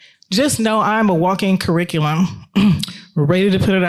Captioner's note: clears throat